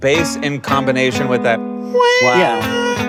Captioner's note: whining